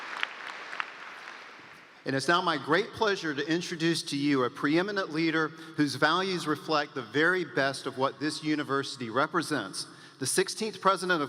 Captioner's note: applause